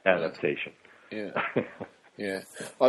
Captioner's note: chuckles